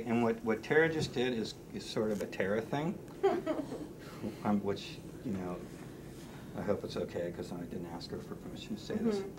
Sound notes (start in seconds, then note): 3.2 chuckles